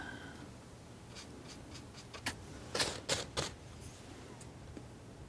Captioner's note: scratching